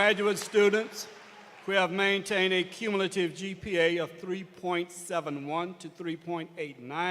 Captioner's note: applause